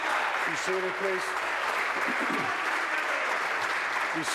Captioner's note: applause